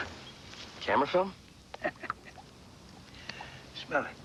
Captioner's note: chuckling